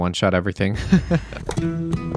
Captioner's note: laughs